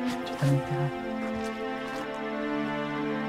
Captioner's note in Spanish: Susurro apenas audible